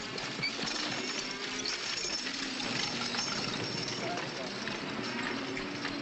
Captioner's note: carriage rattling